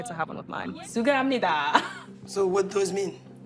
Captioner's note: speaking Arabic